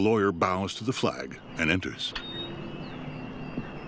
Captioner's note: door squeaks